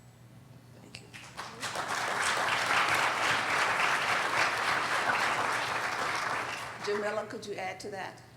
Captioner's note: applauding